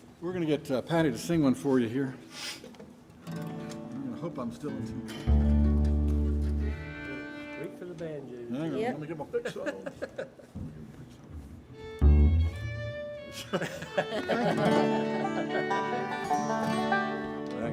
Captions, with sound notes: We're gonna get Patty to sing one for you here. [guitar strums] I'm gonna hope I'm still in tune. Wait for the banjo. Yep. Hang on, let me get my picks off. [gentle fiddle music] [band chuckling] [banjo tuning]